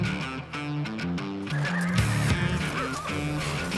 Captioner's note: horses neigh